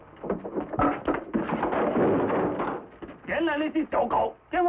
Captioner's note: door opens; sounds of struggling; yelling in Chinese